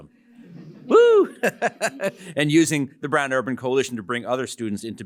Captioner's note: laughs